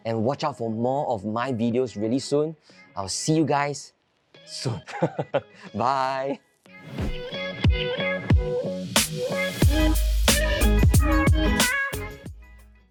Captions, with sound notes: and watch out for more of my videos really soon. I'll see you guys soon. (chuckles) Bye. (upbeat music fades)